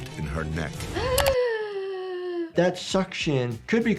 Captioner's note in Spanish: jadea